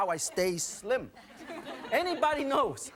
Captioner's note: audience laughing